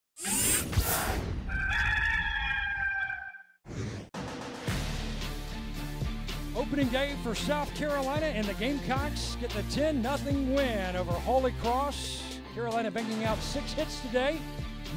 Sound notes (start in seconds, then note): 1.5 rooster crows; 4.2 upbeat music